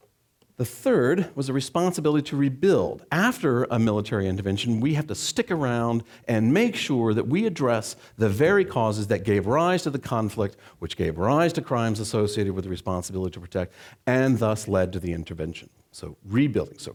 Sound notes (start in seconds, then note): none